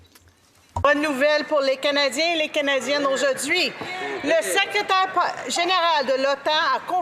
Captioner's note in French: voix de l'interprète